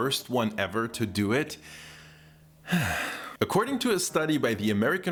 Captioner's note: sigh